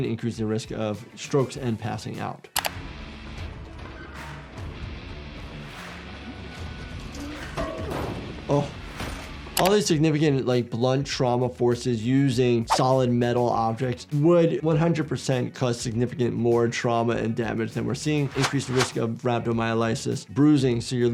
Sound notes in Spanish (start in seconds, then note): 2.6 música rock; 7.2 ruido metálico